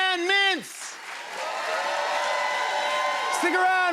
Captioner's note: cheers and applause